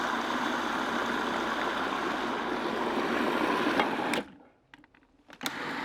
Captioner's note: food processor whirring continues